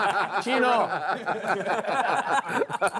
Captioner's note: players laughing; voiceover